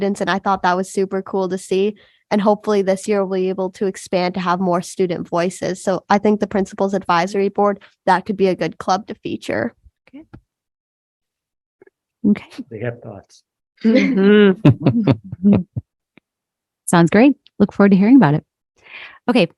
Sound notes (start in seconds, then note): 14.6 both laughing